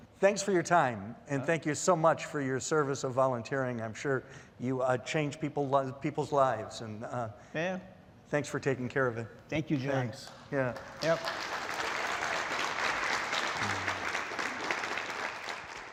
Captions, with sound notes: - Thanks for your time and thank you so much for your service of volunteering. I'm sure you change people's lives and... Thanks for taking care of it. - Thank you, John. - Thanks, yeah. (audience applause)